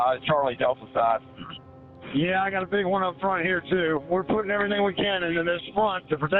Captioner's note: radio traffic - Fire 5